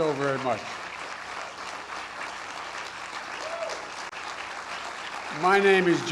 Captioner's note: applause